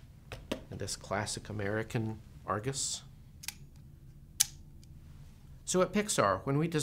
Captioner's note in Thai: เสียงกล้อง